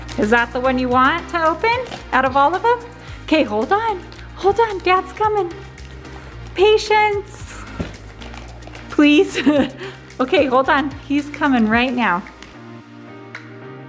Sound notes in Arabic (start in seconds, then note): 9.1 ضحكات خافتة